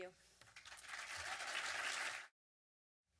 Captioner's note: audience applause